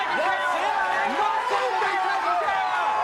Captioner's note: audience cheering